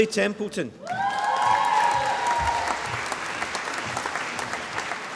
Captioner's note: applause